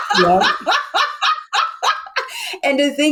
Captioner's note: laughs